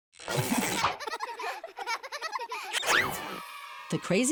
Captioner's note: children laughing